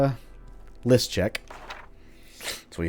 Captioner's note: journal opens